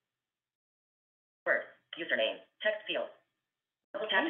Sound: VoiceOver voice

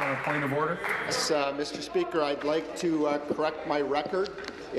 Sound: applause

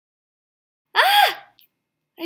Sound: yelps

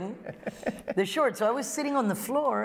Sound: laughter

